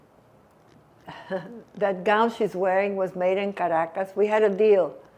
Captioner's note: laughing